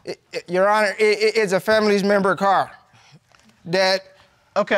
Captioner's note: stammers